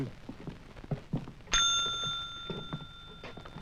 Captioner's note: Charlie Towman rings the desk clerk's bell